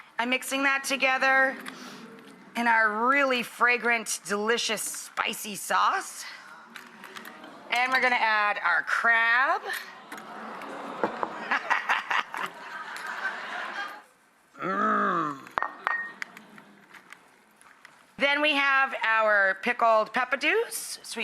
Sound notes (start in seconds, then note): 10.0 audience awes; 11.6 laughs